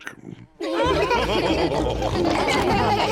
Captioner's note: chuckles; all laughing